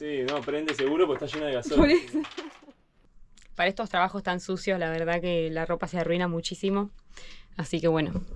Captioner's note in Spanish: risas